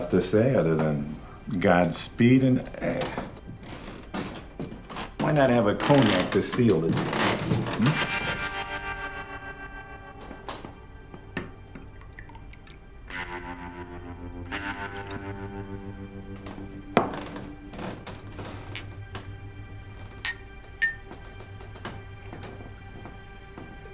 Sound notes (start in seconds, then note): 16.6 glasses clanking